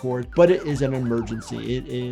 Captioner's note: siren wailing